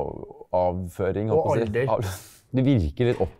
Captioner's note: laughs